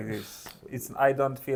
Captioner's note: laughs